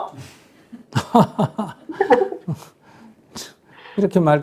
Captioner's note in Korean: 스님과 질문자 웃음